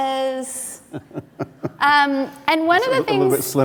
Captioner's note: laughter